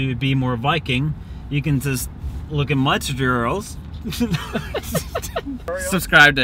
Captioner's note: laughs